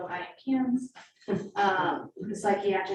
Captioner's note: woman chuckling